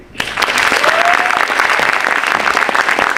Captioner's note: applause